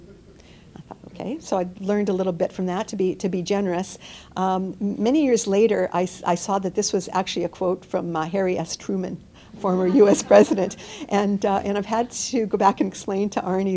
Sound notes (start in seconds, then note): 9.6 laughter